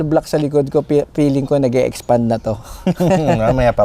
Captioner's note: laughs